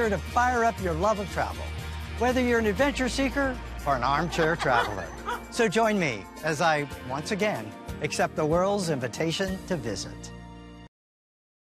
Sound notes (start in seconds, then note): 4.1 people laugh